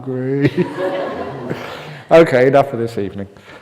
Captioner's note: laughter